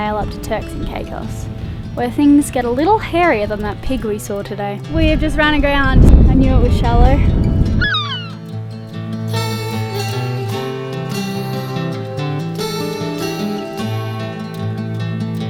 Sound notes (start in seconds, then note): 7.8 seagull screeches; 9.2 mellow guitar music